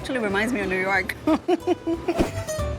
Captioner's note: laughs